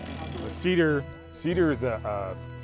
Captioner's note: chainsaw motor rumbling